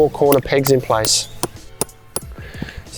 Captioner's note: hammer tapping